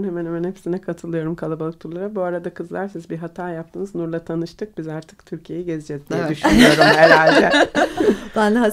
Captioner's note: laughing all together